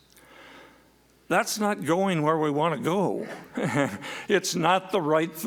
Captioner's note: laughs